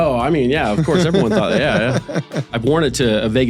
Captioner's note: laughs